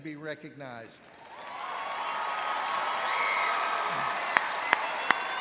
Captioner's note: audience cheering